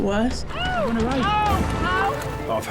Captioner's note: victim screaming